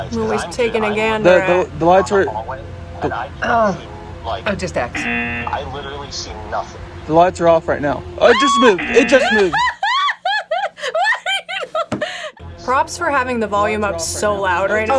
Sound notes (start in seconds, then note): 4.9 buzzer rings; 8.3 screams; 8.6 buzzer rings; 12.2 laughs